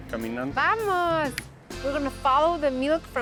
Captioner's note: speaking Spanish